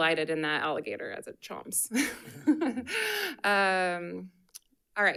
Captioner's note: chuckles